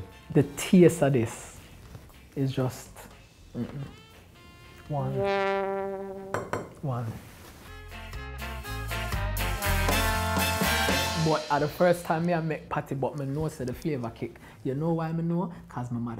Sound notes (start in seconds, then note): 4.4 horn blows; 6.3 taps plates; 9.1 upbeat music